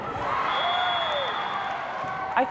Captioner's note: cheering; whistle blows